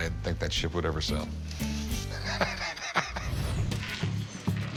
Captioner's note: laughs